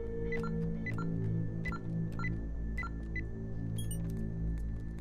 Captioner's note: ominous music; keypad beeping